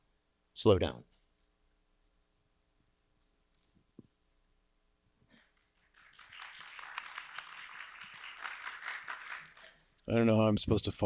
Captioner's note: applause